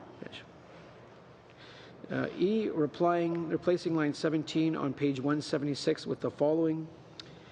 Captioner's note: speaking french